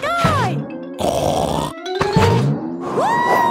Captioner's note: snorts